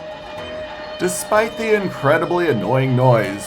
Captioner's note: horn blaring